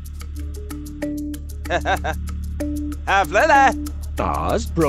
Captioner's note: laughs